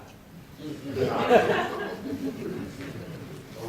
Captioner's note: laughter